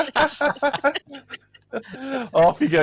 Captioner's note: laughter